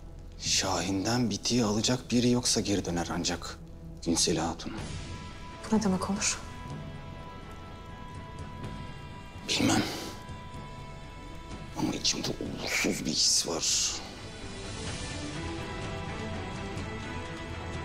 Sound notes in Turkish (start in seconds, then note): none